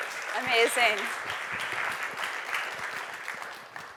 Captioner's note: applause